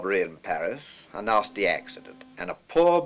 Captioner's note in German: Telefon klingelt